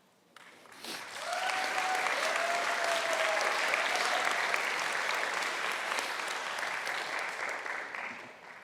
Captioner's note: audience applauding